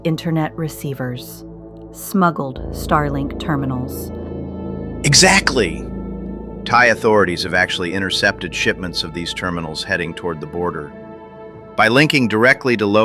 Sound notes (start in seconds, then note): 5.9 excited